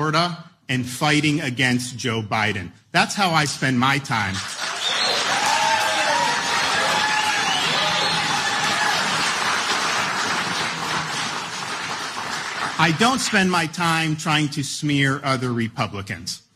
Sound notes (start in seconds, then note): 4.1 applause